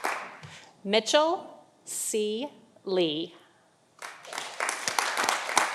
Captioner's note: audience applauding